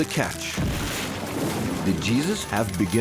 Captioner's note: water splashing